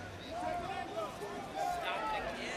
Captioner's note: crowd cheering